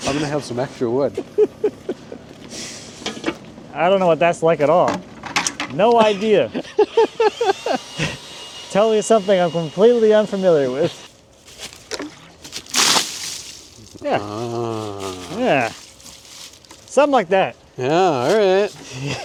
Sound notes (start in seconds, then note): 11.8 water splashes